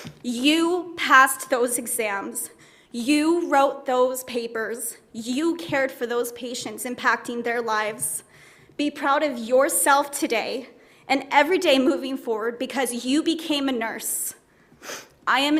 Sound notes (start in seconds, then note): none